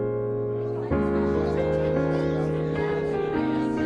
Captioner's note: lively chatter